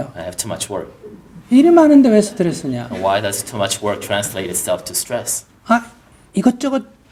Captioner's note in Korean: 청중 웃음